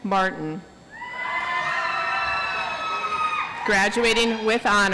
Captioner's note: audience applauds